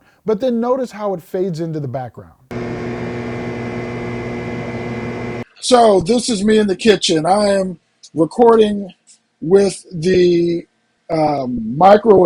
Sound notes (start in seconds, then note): 2.5 microwave humming